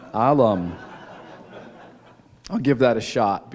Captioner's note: laughter